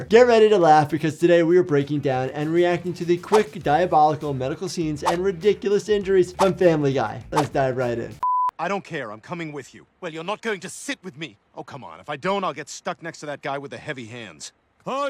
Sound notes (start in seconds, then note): 8.2 screen beeping